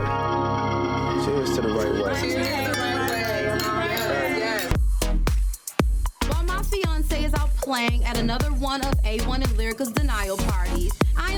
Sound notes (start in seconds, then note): 2.1 glass clinking; 5.0 gentle upbeat music